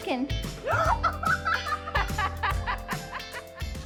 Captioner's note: laughter